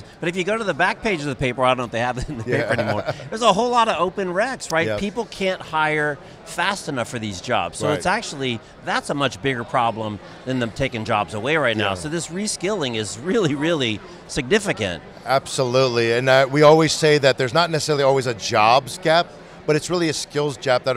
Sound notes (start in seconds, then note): 2.2 chuckles